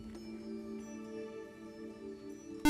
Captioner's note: buzzer